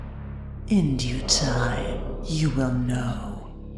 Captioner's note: echoing